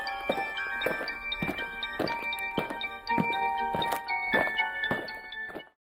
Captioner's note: eerie music; aliens marching